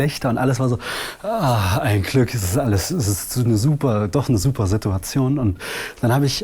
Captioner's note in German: seufzt